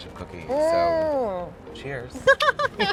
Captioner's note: delighted groaning; laughter